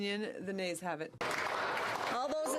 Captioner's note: speaking French